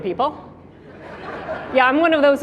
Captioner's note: audience laughing